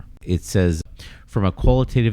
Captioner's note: uh